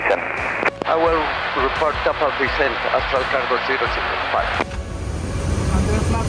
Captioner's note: pilot On Speaker